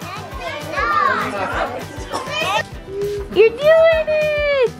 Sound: children yelling

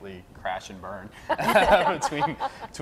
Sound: laughing

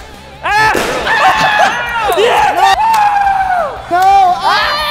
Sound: incoherent shouting

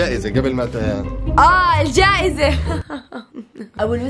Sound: nervous laughter

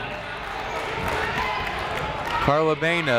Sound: people shouting in the crowd

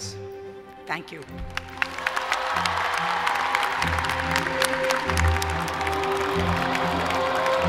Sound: applause

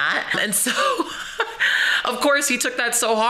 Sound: chuckles

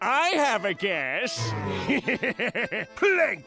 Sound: laughing

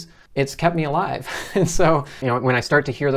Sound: laughs

